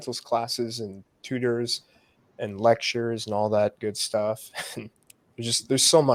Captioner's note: laughs